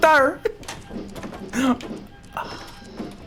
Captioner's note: gasps